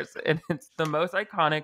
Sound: laughing

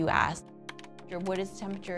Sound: keyboard clicking

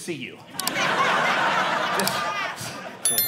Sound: audience laughing

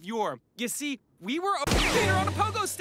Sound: gun Shot

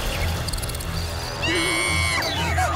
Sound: screaming

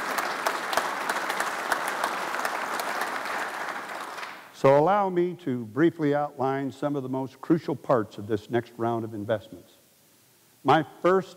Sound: applause

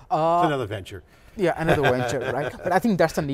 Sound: laughing

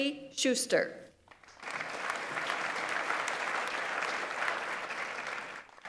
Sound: audience applauds

